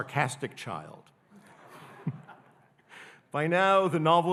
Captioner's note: audience laughing